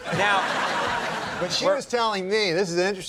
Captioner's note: audience laughing